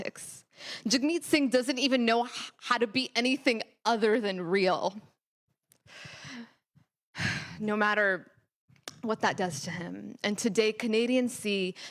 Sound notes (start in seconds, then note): none